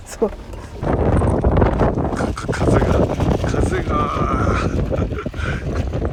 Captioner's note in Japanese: 強風